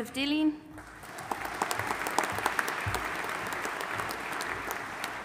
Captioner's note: audience applauding